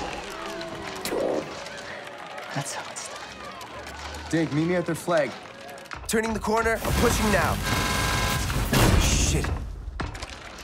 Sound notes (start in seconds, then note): 0.0 crowd cheering and clapping; 6.7 guns firing